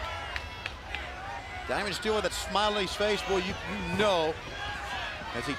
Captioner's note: crowd cheering